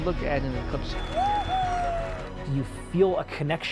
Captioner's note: cheers